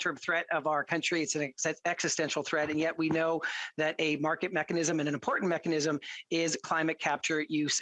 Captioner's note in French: voix de l'interprète